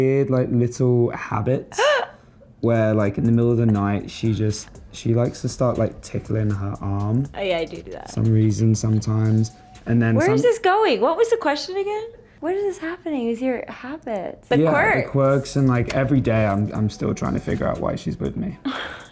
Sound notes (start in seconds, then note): 1.8 gasps